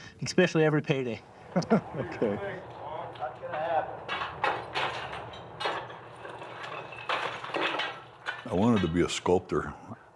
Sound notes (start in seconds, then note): 1.4 interviewer laughs; 4.6 ore cracking